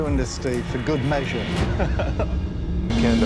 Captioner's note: laughs